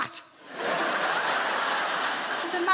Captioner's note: audience laughs